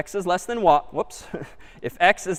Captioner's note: laughs